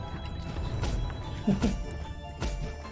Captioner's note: laughs